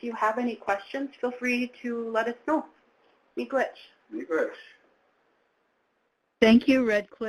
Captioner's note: speaking in foreign language